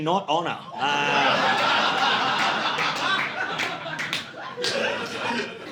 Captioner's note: audience laughing